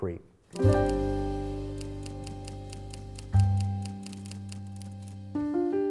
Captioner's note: gentle music; typewriter keys clicking